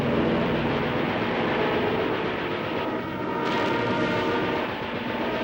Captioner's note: guns firing; engines humming